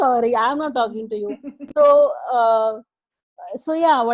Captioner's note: chuckling